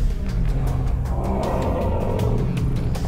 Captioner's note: roars